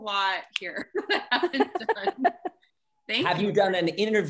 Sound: laughs

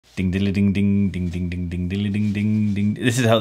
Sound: humming

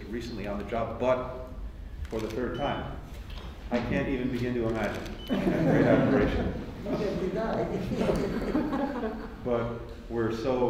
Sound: laughter

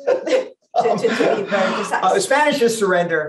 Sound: laughs

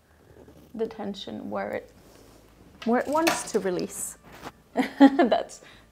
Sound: laughs

